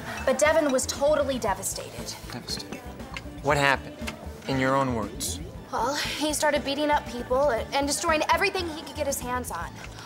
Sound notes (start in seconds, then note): none